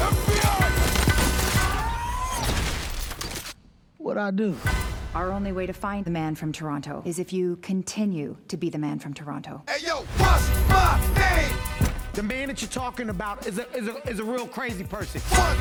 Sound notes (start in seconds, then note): 1.6 screams; 9.7 hip-hop playing